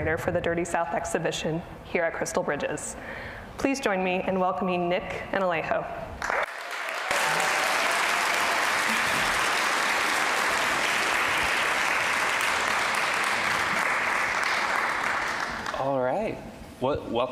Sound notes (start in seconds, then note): 6.4 audience applause